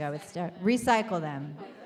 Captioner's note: audience laughs